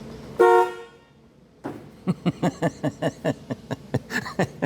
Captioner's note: horn Honks; laughs